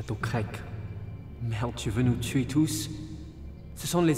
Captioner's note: speaks in French